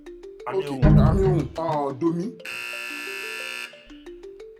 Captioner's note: buzzer pressed